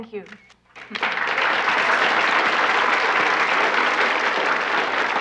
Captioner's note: audience applauding